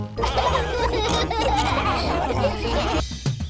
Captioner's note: all laughing